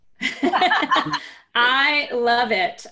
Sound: laughter

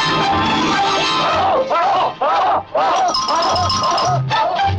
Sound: cheering

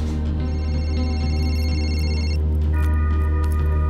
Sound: cellphone rings

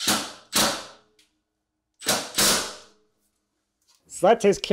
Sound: screw gun running

